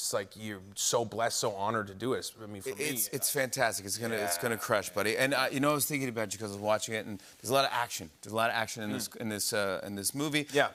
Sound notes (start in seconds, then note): none